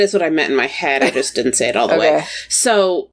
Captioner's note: laughs